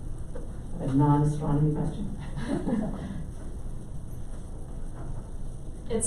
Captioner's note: laughing